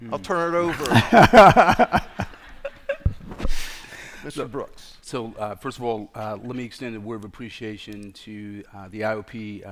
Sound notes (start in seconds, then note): 0.6 laughter